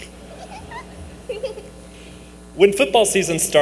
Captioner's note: laughter